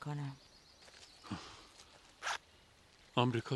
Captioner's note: zipper bag closing